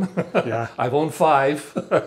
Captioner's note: laughing